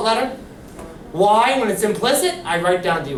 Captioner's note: voiceover